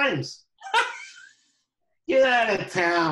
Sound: laughing

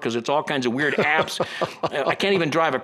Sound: laughs

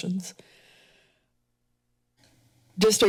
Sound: pause

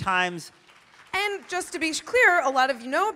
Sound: audience applauds

